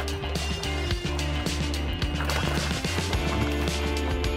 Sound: water splashing

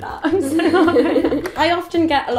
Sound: laughing

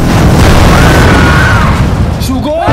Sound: crowd screams

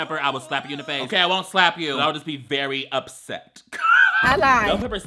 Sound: laughs

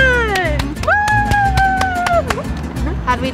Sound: claps

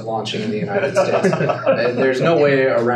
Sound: laughing

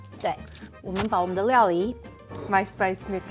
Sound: speaking in mandarin

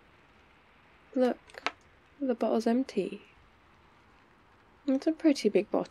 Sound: bottle squish

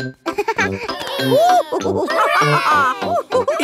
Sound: giggles; madam gazelle laughing; children straining

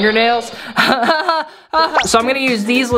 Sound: laughing

